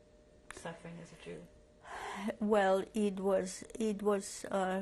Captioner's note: sighs